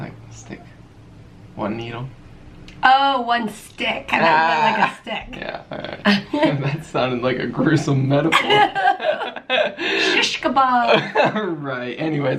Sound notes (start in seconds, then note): 5.7 laughing